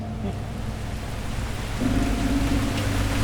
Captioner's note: heavy rain